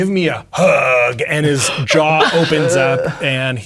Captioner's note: players reacting